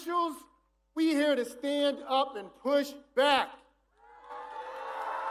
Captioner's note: cheers and applause